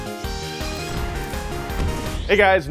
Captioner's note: crashing